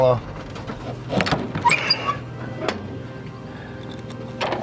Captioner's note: locks creaking